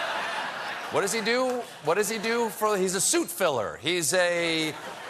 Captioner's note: laughter